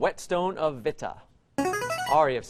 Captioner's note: player buzzer